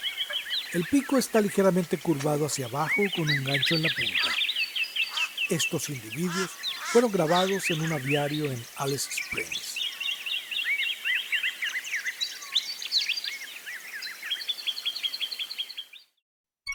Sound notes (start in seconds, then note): 10.7 birds chirps